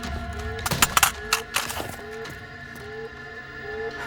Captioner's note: rifle clanks